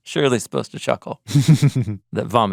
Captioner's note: chuckles